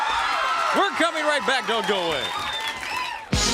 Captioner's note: crowd cheering